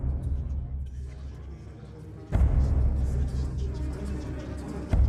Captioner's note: voices echoing